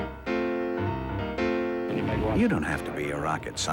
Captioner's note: crowd chants